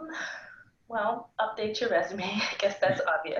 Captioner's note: laughs